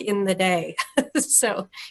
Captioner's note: laughs